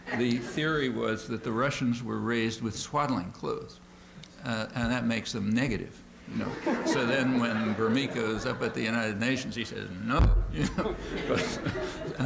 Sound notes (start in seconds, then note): 6.4 laughter